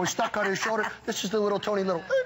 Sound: laughter

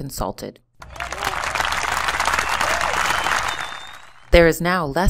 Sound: clapping

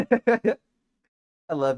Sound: laughs

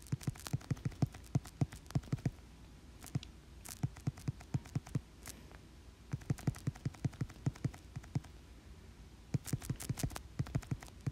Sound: intense focus and tapping for a solid 20 seconds

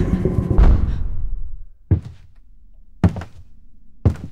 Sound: footsteps thudding

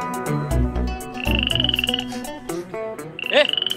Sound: comical sound

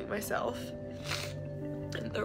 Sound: sniffs

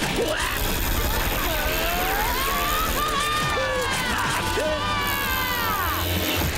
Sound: screaming

